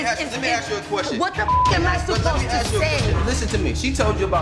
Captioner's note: beep